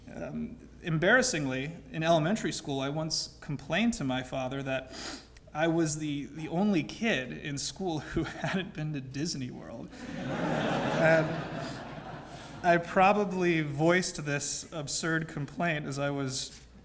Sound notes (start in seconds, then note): 10.0 laugh